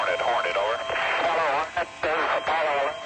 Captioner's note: voiceover